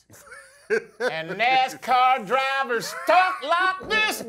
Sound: French accent; laugh; southern accent

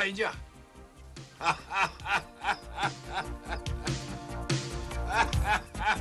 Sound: laughter

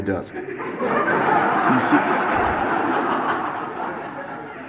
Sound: audience laughs

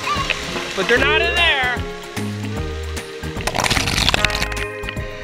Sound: voiceover

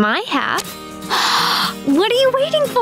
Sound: gasps

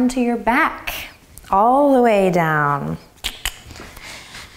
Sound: clicks tongue

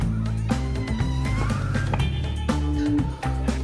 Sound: door creaks; gasps

